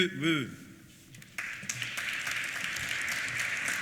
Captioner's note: applause